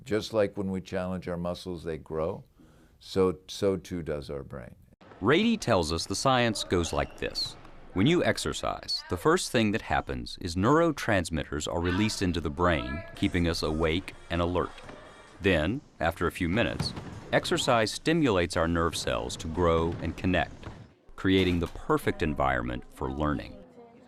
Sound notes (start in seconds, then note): 5.5 voiceover